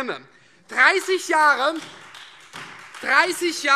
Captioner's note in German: Beifall